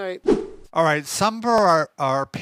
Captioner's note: whooshing sound